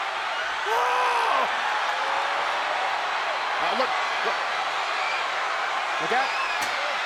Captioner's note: crowd cheers